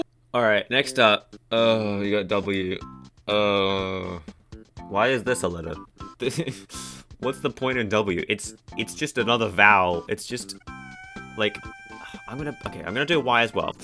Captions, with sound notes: Alright, next up... *groan* we got "W"... *longer groan* Why is this a letter? What's the point in W? It's... it's just another vowel. It's just... like... I'm gonna... okay, I'm gonna do "Y" as well-